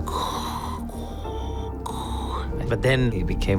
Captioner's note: breathes like Darth Vader